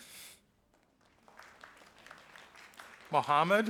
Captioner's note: audience applauding